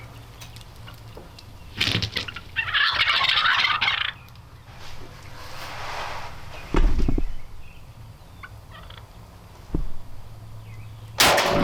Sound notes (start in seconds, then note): 1.4 birds squawking